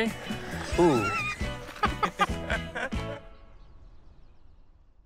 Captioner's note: both laugh